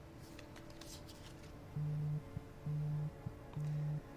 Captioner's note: phone buzzing